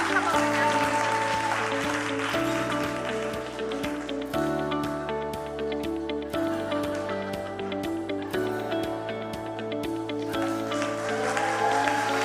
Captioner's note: cheering and applause